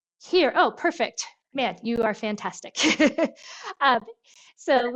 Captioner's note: laughs